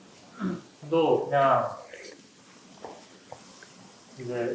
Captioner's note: slurp